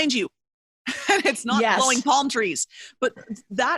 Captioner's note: laughs